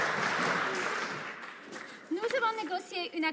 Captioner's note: some Applause